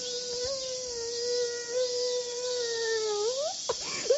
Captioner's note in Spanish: lloriqueando